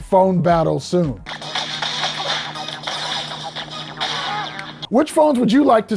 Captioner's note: robot chittering